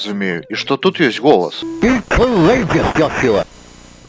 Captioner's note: digitized voice